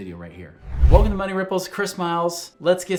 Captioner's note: air whooshing